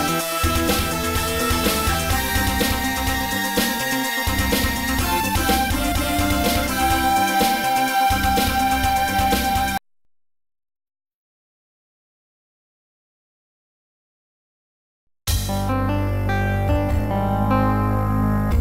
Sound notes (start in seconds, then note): 10.3 silence; 15.5 32-bit console startup music plays